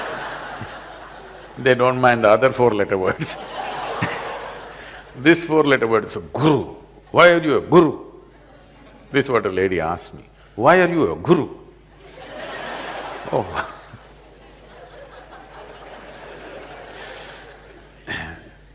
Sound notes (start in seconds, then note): 0.0 laughter; 3.0 laughter; 14.6 laughter